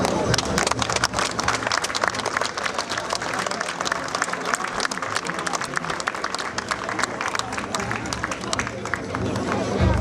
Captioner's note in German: Applaus